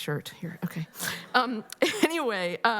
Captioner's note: laughter